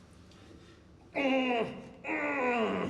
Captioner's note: groaning